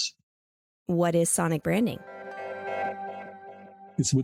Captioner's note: transition Sound